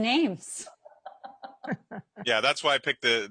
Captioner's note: laughing